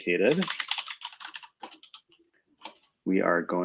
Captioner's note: typing